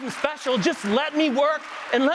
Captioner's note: applause